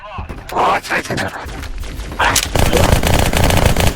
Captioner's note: alien shocked sounds